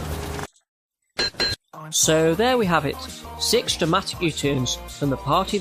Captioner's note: ding ding